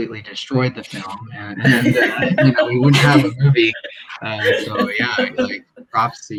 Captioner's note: laugh